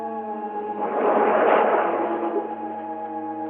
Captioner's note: waves crashing